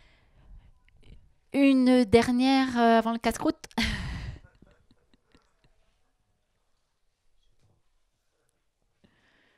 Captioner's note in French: elle rit